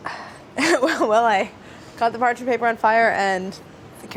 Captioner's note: laughs